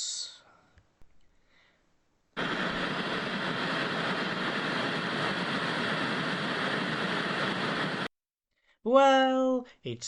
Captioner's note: TV static